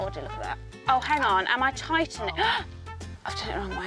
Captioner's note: gasps